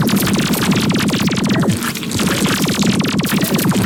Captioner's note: intense Battle Noises